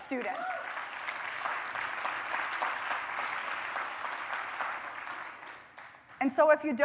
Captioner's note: applause